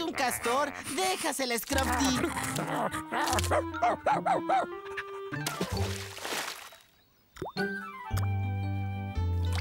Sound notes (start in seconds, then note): 1.6 growling & Barking; 5.5 splash!